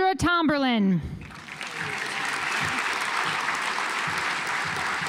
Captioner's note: audience applauds